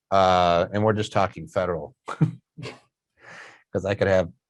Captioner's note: chuckles